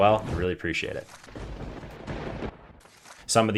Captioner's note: thunder crashing